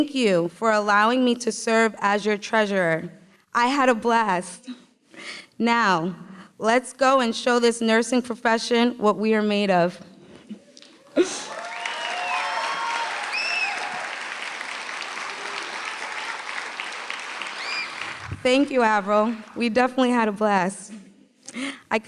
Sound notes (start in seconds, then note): 11.4 applause